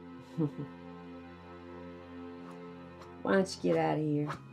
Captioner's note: Betsy chuckles